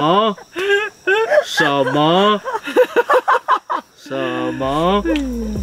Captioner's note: laughing